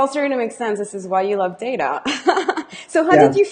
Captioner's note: laughs